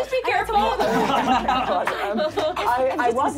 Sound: laughing

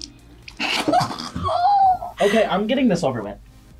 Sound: both laugh

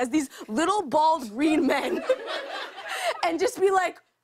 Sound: laughter

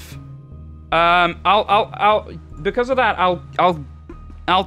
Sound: stutters

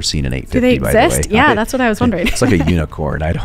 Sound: laughing

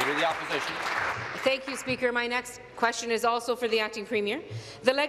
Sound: applause

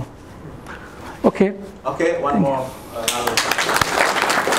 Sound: applause

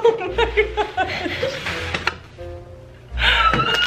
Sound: laughter

